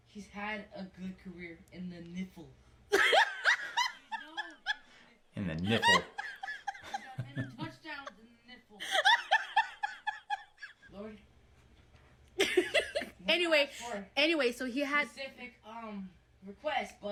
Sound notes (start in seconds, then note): 2.9 mom laughs; 8.8 mom laughs